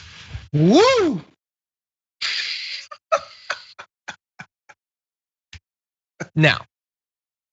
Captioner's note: laugh